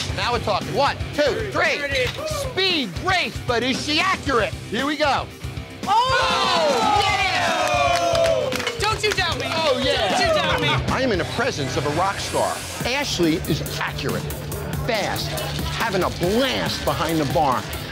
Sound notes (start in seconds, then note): 5.8 customers cheering